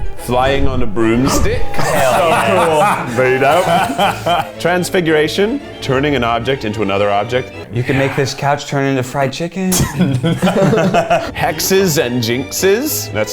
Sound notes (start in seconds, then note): 9.9 laughs